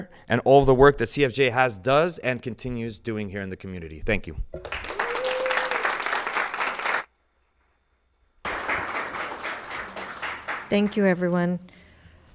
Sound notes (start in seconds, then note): 4.5 people cheer; 4.9 audience applauds